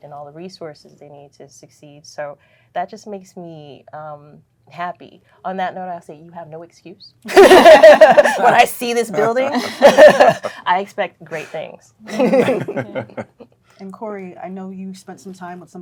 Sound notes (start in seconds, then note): 7.2 all laughing